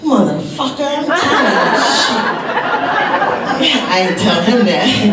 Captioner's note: audience laughs